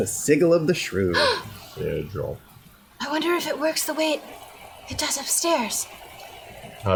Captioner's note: gasp